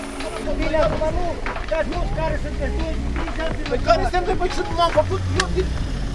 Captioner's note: drivers arguing